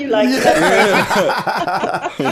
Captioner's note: laughter